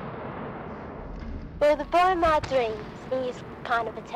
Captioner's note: voiceover